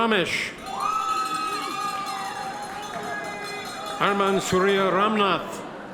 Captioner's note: bell rings; audience members cheer